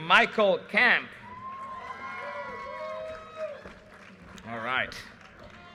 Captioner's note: audience cheers and applause